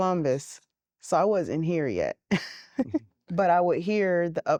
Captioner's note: giggling